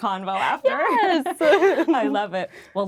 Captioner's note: laughing